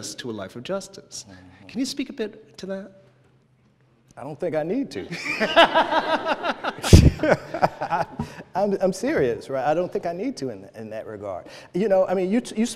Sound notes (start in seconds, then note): 5.0 laughter